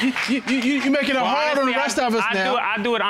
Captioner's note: audience laughing; stutters